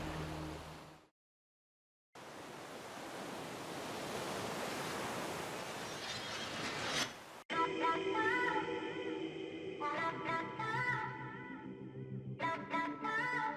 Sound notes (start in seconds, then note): none